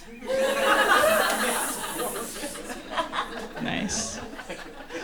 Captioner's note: hissing